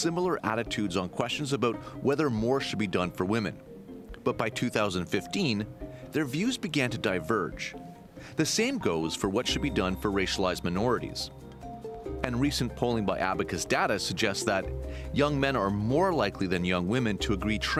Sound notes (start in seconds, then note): none